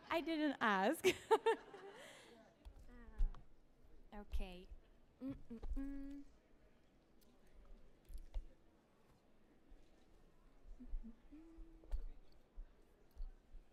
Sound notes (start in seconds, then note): 1.0 laughs; 1.3 audience laughs; 5.2 hums; 10.7 hums